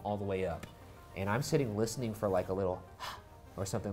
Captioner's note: breathes out